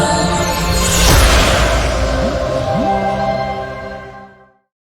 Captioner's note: upbeat music; air whooshing